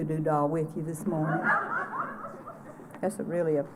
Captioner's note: laughter